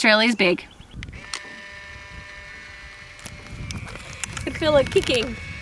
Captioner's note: camera buzzing